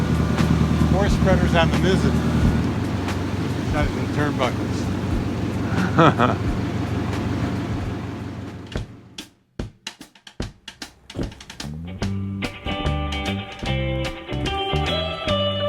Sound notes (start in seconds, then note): 5.6 laughs; 9.0 upbeat music